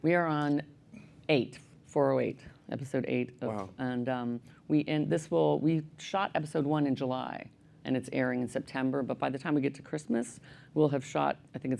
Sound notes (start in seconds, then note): none